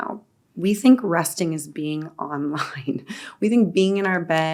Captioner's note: chuckles